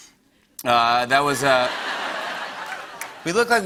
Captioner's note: laughter